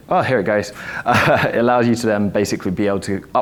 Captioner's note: laughs